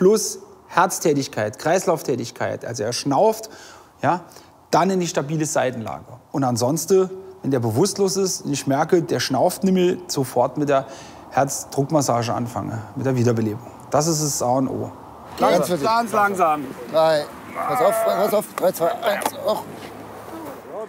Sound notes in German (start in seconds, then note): 17.4 Ächzen